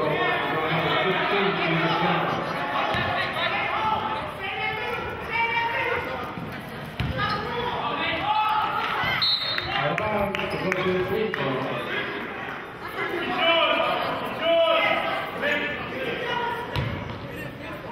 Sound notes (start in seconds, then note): 4.9 yelling; 9.2 whistling